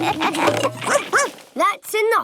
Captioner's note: all laugh; barks